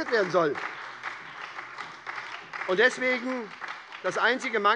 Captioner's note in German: Beifall bei der SPD